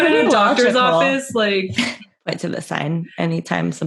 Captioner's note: laughter